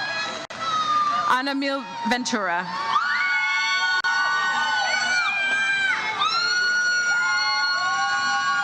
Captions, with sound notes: Anamil Ventura. (audience cheers enthusiastically)